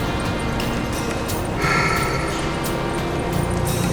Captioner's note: Smoke sighs